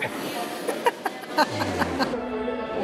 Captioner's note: laughs